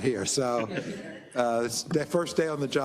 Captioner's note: laugh